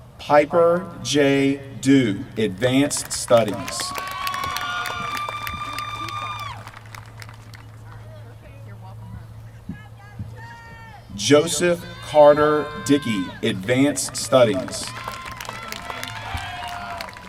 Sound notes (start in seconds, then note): 2.8 applause; 13.8 applause